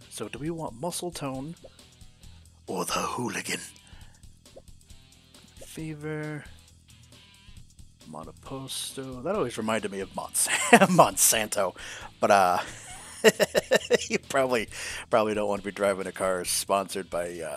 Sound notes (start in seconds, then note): 12.3 heh heh